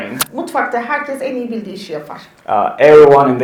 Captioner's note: speaks in Turkish